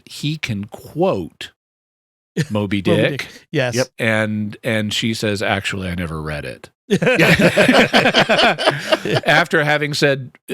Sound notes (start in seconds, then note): 5.2 laughing